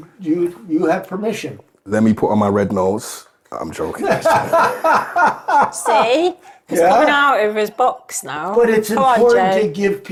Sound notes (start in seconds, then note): 4.0 laughing